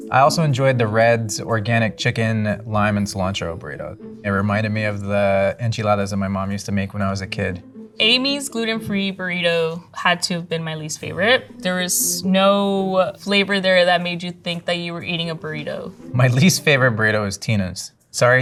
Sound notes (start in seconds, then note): none